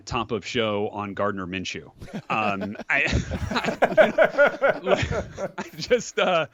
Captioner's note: laughter